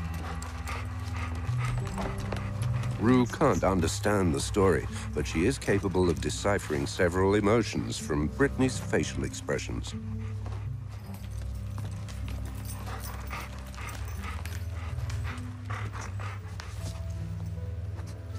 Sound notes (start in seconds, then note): 13.0 panting